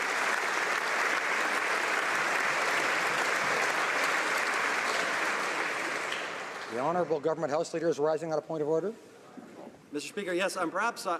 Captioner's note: applause